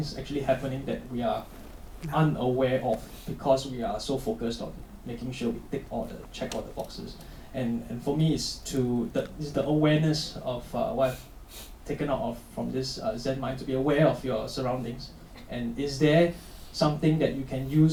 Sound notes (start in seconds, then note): none